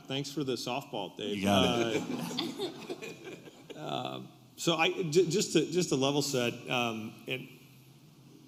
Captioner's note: laughter